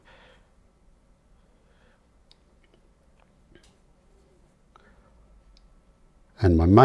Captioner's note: silence